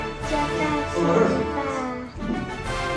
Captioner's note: Taiwanese